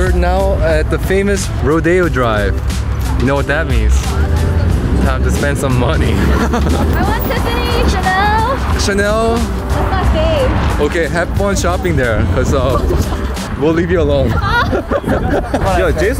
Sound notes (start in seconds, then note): 6.1 laughing; 14.2 both laughing